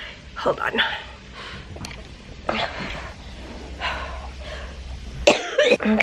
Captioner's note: labored breathing; coughing